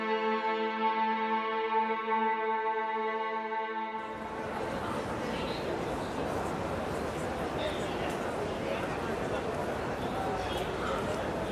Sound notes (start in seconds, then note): 0.0 pensive orchestral music; 4.0 people chattering